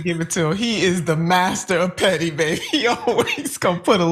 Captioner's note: laugh